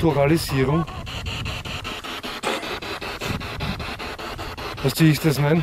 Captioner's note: radio noise from the spirit box